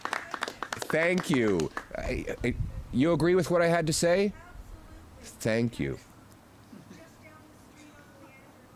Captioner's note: applause